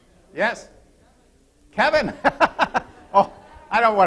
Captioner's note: laughter